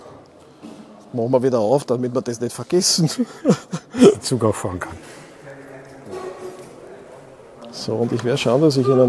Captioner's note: laughs